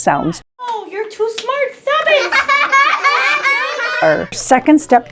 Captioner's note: laughing